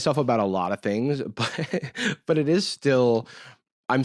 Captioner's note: laughs